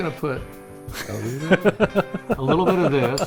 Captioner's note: laughs